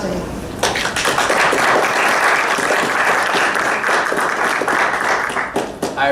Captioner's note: applause